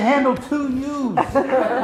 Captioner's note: laughs